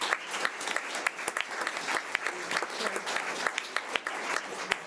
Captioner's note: audience applause